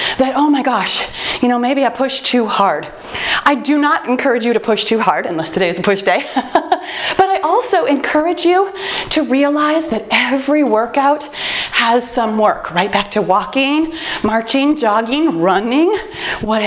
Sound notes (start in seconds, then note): 11.0 timer beeps